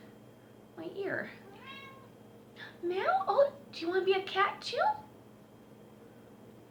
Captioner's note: cat meows